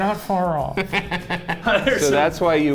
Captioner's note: laughs